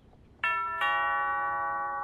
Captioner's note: Door bell ringing